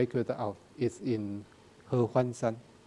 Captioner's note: speaking in a foreign language